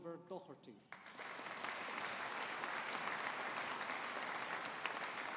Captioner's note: audience applauding